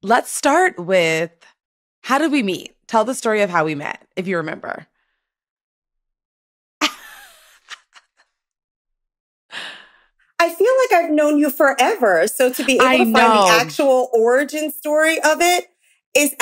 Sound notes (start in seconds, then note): 7.5 laughs